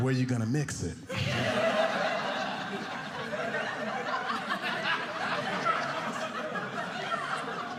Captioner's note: audience laughing